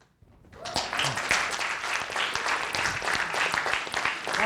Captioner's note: audience applauding